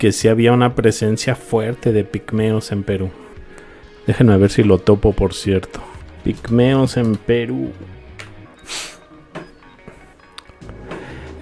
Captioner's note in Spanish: resoplido